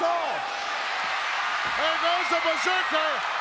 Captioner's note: crowd cheers